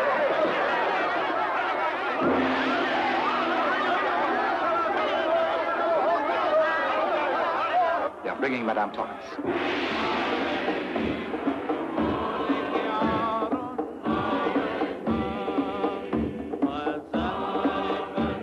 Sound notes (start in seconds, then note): 2.2 gong crashes; 10.1 gong crashes; 11.1 people chanting in foreign language; 12.5 drums banging